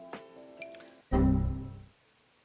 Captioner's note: Windows error message sound